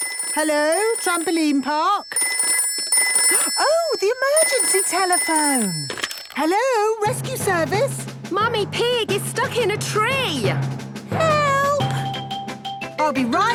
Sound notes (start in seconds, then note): 2.6 phone ringing